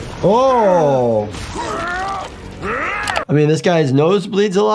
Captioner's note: bones crunching